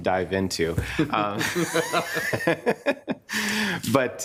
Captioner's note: group laughs